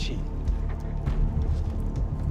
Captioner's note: speaking in foreign language